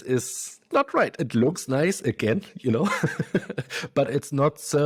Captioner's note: laughs